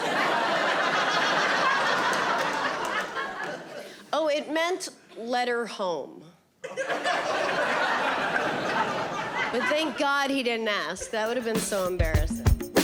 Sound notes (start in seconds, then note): 0.0 audience laughing; 6.6 audience laughing